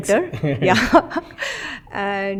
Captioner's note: laughs